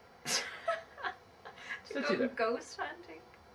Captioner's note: scoffs